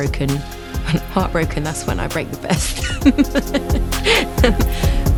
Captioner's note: laughs